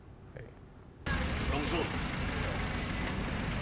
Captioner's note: speaks in foreign language